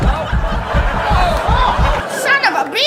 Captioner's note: people laughing; body rumbling